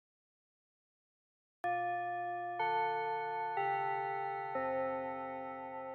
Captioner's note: school Chime